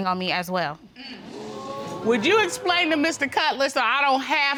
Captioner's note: audience exclaiming